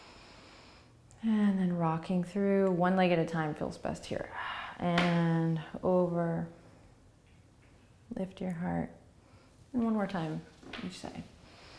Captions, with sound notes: And then rocking through, one leg at a time feels best here. (exhaling) And over. Lift your heart. And one more time, each side.